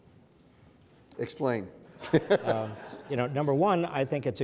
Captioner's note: laughs